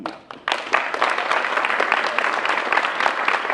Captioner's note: applause